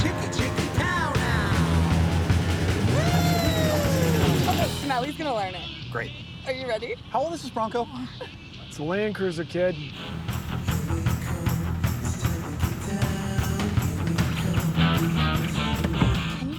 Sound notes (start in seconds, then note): 7.8 laughs